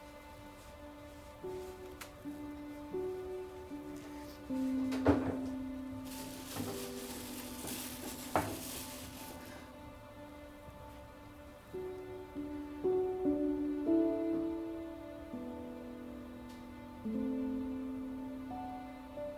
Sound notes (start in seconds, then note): 2.2 toilet paper ripping; 2.2 trash can clanking; 5.4 bag rustling; 6.4 sentimental music; 16.1 sentimental music